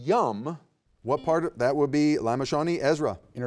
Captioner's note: buzzer beeps